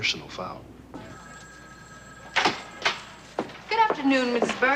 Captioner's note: phone ringing